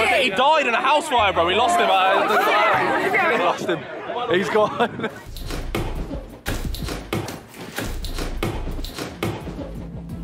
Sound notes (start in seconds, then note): 0.0 bystanders yelling; 6.0 mat thumping